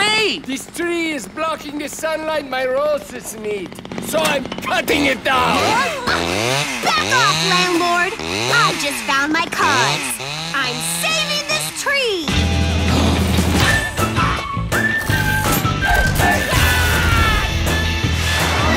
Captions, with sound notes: This tree is blocking the sunlight my roses need, so I'm cutting it down! [all gasp] Back off, Landlord! I just found my cause. I'm saving this tree! Aagh!